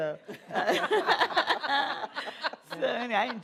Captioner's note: laughter